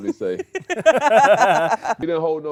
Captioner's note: laughs